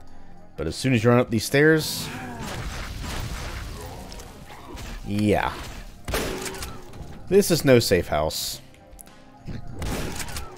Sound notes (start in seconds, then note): 6.0 shotgun blasting